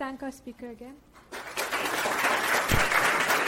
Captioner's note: crowd applauding